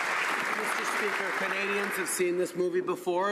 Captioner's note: some Applause